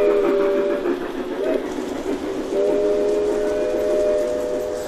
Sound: sounds of a steam train going by, with whistle blowing

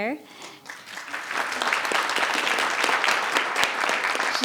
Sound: audience applauds

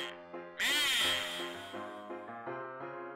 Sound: echoing

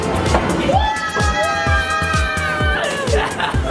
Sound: cheering

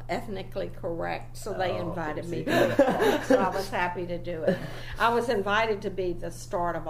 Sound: laughs loudly

